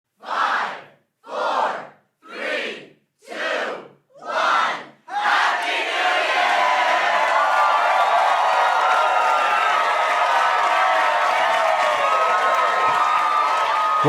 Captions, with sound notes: - [Crowd] Five, four, three, two, one, Happy New Year! (crowd cheering)